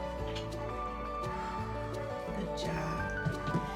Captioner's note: exhales